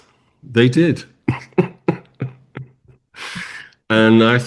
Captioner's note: laughs